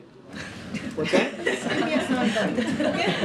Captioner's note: laughter